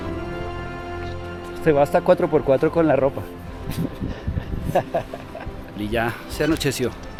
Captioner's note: laughter